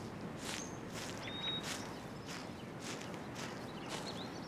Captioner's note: birds chirping